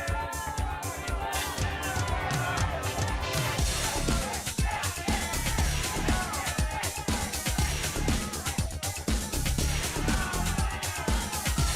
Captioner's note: crowd cheering